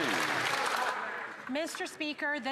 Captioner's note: some Applause